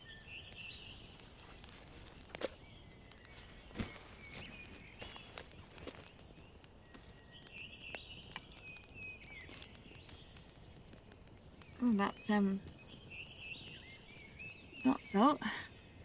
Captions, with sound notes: (birds chirping) - Umm, that's, that's not salt.